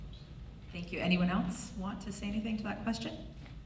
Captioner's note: voiceover